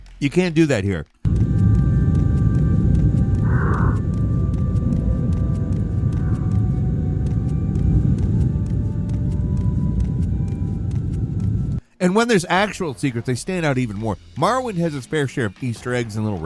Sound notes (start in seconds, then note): 1.2 intense ambient music; 3.8 footsteps thumping